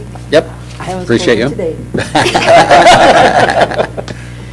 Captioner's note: laughter